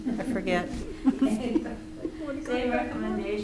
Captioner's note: various laughs